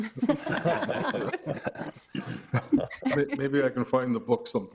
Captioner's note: Committee laughing